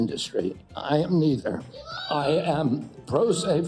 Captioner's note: protestor shouts